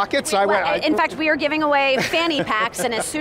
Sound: laughs

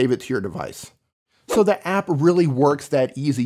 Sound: air swishing

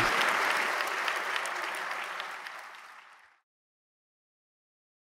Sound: audience applauding continues

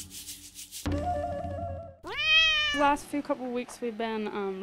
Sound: tropical music; cat meowing

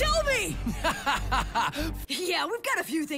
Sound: laughing

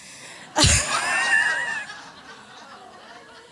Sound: laughter

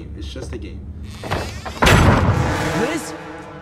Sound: door creaks

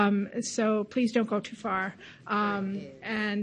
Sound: audience chatters

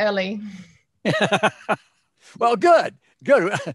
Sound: laughing

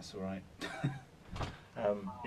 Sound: speaker laughing

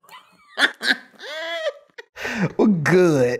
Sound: laughing

